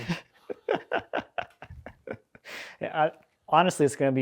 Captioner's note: laughing